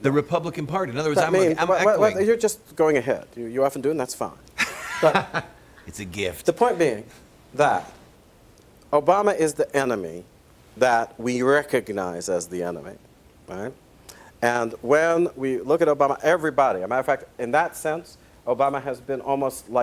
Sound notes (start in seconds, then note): 4.6 laughs